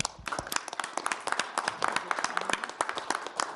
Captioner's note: all clapping